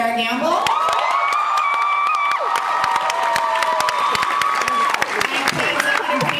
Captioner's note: cheers